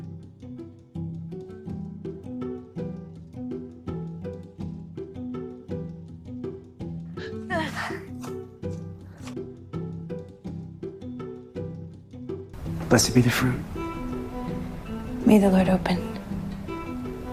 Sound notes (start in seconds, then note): 12.9 voiceover